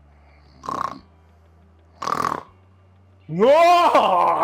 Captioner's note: snoring